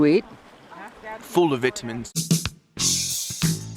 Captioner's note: British accent